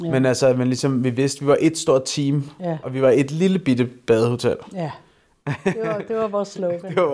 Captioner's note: laughs